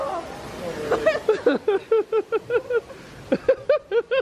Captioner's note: laughs